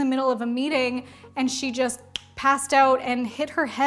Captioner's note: snaps fingers